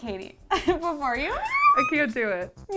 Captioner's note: squeals